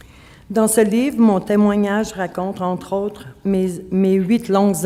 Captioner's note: speaking French